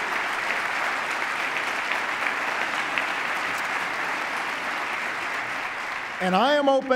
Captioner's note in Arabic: تصفيق